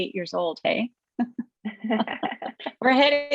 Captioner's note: chuckle